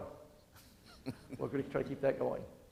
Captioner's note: audience chuckling